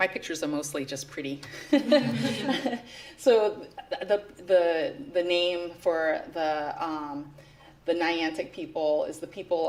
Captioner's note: laughter